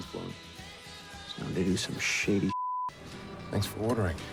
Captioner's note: beeps